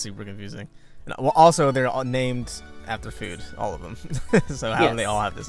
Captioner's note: chuckles